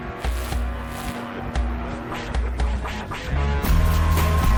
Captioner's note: static crackling